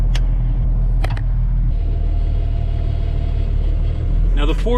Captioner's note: tractor sound